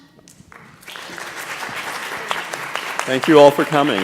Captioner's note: audience applauding